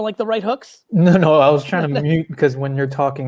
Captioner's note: laughs